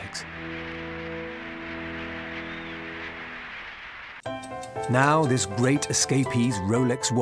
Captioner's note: crowd cheering